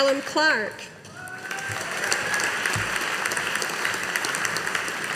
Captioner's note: audience applauding